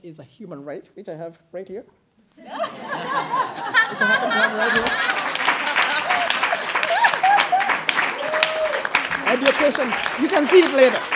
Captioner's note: applause